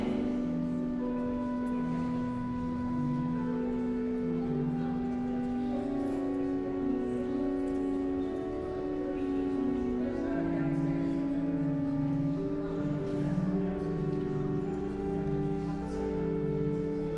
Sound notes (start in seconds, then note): 10.9 elegant music continues; 10.9 guests chattering